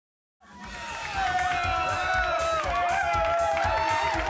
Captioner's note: crowd cheering